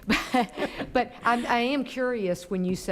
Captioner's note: laughing